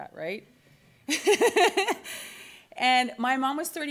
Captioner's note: laughs